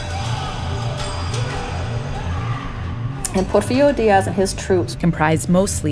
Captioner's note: soundbite of war